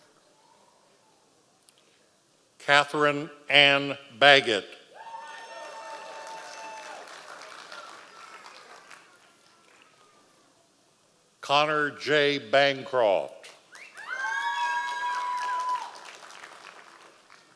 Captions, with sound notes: Catherine Anne Baguette. (audience applause) Connor J Bancroft. (audience applause)